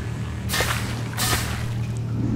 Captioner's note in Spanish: Pasos animatrónicos